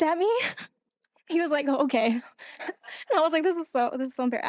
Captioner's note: laughing; laughing